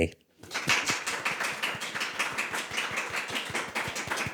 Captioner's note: audience clapping